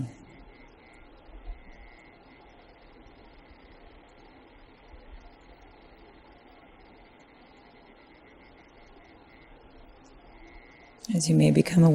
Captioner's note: silence